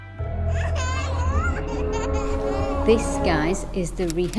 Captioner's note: children laughing